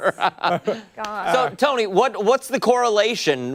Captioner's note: laughter